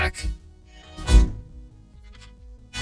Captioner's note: door creaks